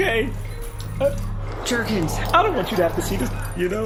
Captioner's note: tearing up